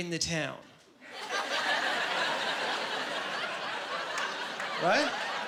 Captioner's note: laughing